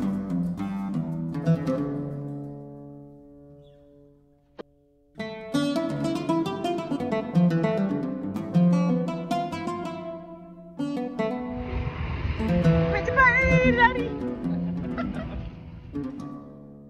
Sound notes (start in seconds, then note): 14.0 laugh